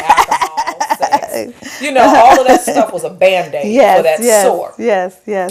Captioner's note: laughter